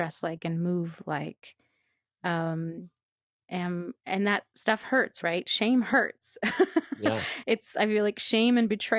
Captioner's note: laughs